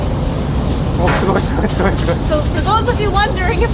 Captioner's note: speaking Japanese